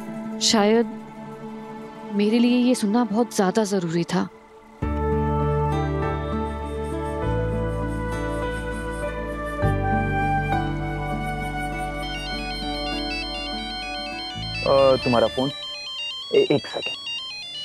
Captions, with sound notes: Maybe it was essential for me to hear this. (motivational music playing) - And here is your phone. - (phone rings) One second.